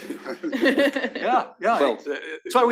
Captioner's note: laugh